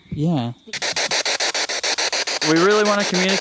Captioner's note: static pulsing